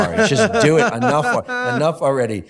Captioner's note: laughs